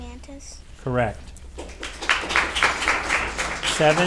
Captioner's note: audience applauding